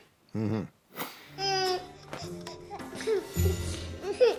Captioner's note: Baby Po coos